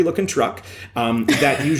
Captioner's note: laughter